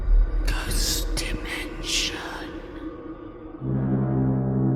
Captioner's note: ghostly Voice